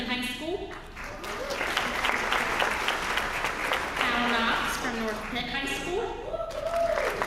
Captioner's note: applause